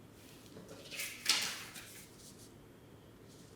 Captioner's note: paper rustling